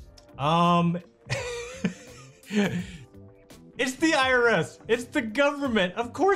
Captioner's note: laughs